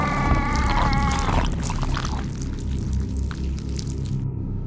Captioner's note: Wolf groans